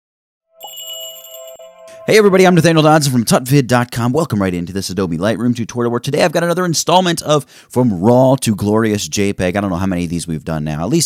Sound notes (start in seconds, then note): 0.5 magical jingle